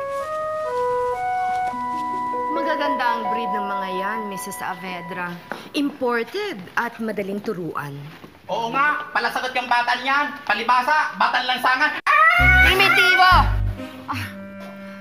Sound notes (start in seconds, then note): 12.1 caws; 14.0 chuckles